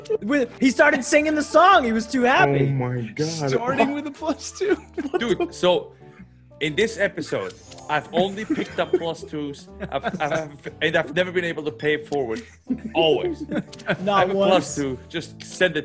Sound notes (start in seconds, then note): 4.9 laugh